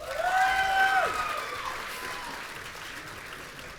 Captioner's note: audience cheering